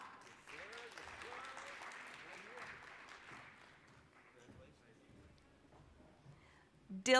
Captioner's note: applause